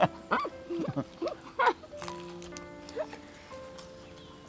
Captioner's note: both laughing